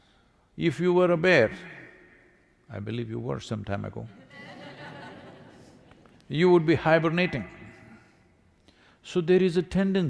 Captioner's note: laughter